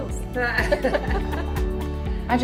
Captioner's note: laughing